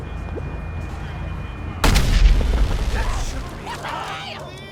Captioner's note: explosion; background chatter